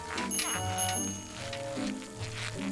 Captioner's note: bicycle bell rings